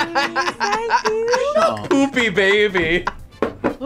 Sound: both laugh; laughs

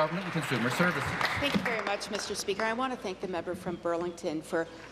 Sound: applause

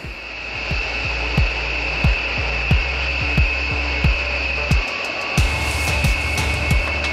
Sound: air swooshing; light rock music

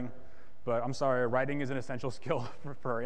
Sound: laughs

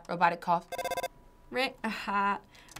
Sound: phone ringing

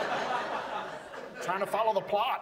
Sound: audience laughs

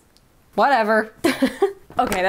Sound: laughing

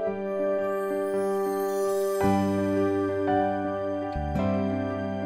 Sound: chimes ringing; soft gentle music

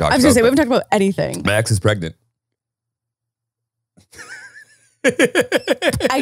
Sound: laughing

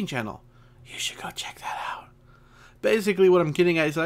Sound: whisper

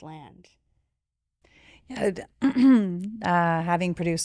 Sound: clears throat

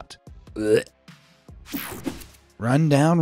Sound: narrator gagging

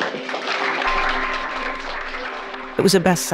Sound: audience applauding

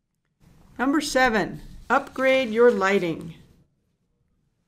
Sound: voiceover

